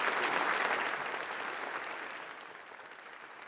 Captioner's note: applause